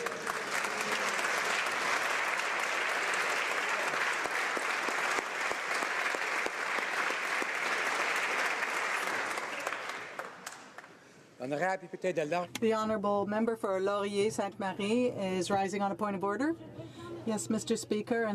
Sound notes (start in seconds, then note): 9.3 applause